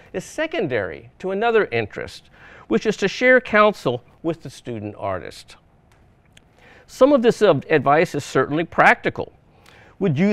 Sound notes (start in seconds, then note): none